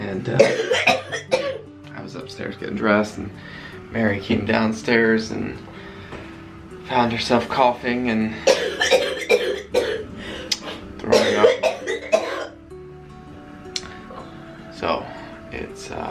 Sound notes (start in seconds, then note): 8.5 coughing